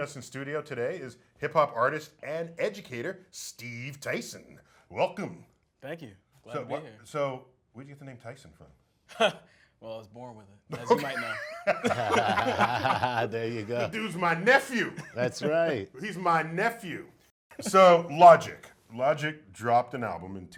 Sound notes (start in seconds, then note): 10.7 laughs